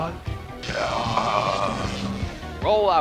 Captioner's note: Megatron groans in pain, wound sparking